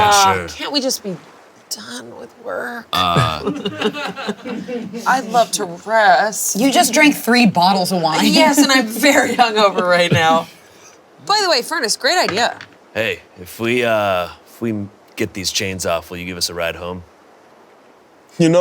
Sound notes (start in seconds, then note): 2.9 players chuckling